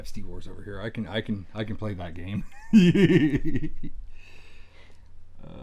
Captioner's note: laughs